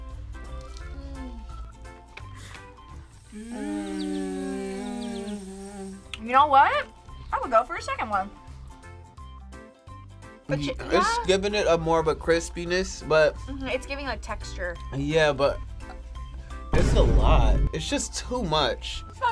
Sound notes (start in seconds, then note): 0.0 quirky music; 0.7 gasping; 3.4 birds chirping; 8.7 quirky music